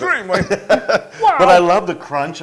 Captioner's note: laugh